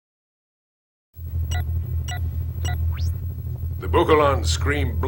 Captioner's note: beeping